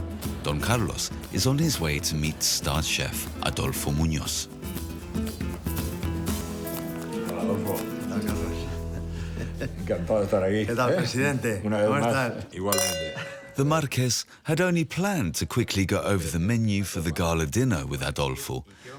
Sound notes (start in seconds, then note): 8.3 speaking foreign language